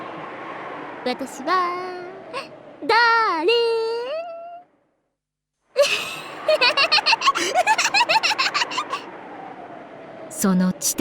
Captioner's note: giggle